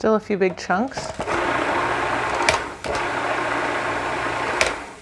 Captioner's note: machine whirs